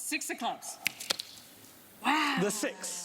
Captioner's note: snapping